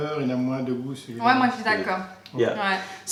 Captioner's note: french